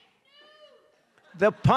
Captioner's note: laughter